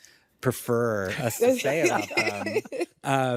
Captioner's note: laughs